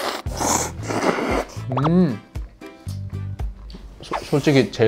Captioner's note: nom nom slurp